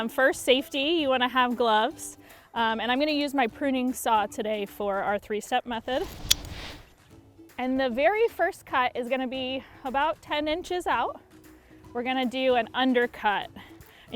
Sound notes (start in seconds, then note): 5.9 saw blade snaps open